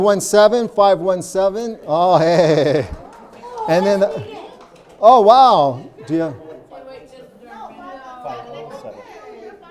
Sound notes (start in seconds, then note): 2.0 laughs